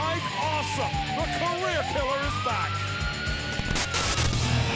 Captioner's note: sirens blaring; static hissing